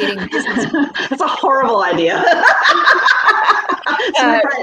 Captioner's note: chuckling; laughing